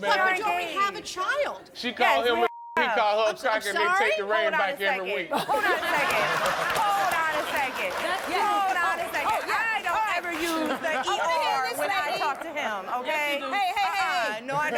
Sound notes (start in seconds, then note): 2.4 beep; 5.2 crowd laughs